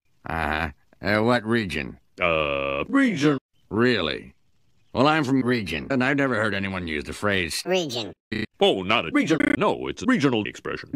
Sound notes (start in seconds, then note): 8.2 stuttering